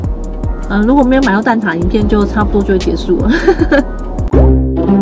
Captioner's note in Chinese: 苦笑